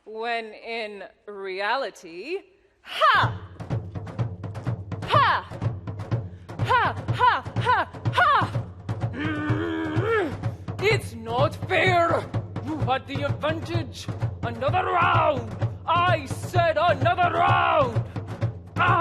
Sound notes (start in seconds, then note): 3.4 warlike music; 9.1 grumbles